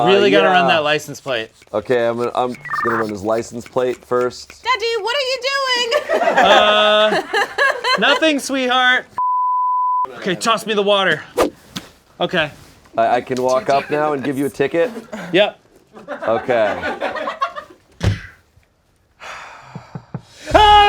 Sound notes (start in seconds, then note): 1.0 pumping sound; 5.8 background laughter; 9.5 high-pitched tone; 11.3 swish sound; 20.0 knocking